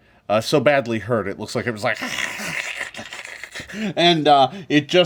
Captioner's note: hisses